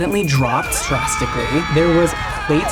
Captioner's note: screaming